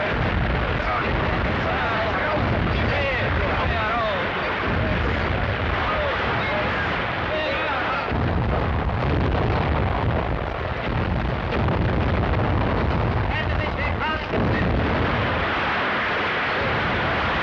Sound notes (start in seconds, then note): 0.0 people murmuring; 7.8 cannons firing; 13.2 speaking in foreign language